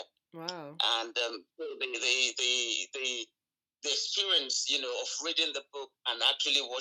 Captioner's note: stammering